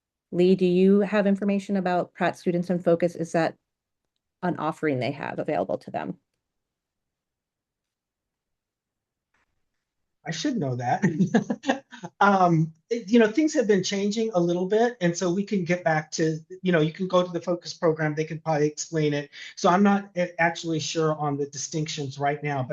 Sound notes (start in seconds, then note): 10.3 laughs